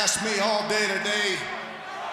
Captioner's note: crowd cheering